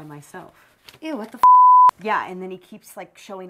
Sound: beep

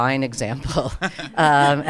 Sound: panelists laughing

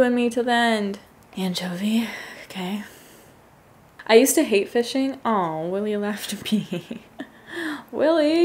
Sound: laughs

